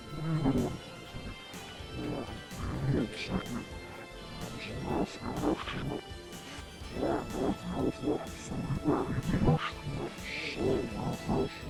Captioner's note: speaking in foreign language